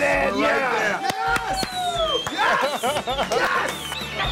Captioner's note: cheering